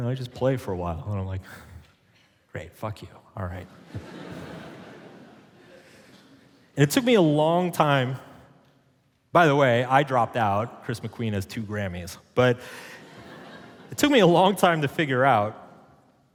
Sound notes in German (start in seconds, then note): 3.7 Publikum lacht